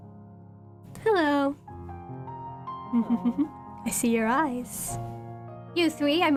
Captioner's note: chuckles